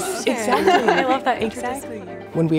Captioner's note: laughing